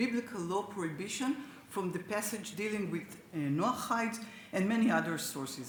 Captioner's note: speaks Hebrew